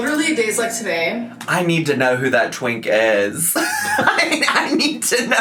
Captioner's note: laughs